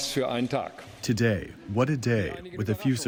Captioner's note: through translator